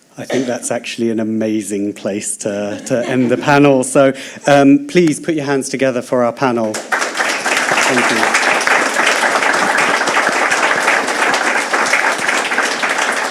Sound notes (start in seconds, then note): 6.6 applause